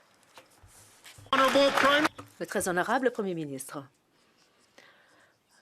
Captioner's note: some Applause